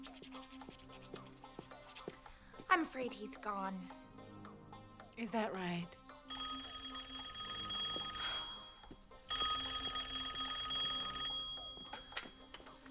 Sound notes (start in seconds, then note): 6.2 telephone rings; 9.1 sighs; 10.1 rings